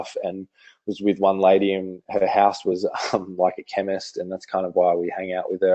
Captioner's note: laughs